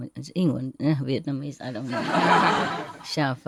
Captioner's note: Vietnamese